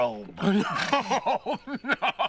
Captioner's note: laughing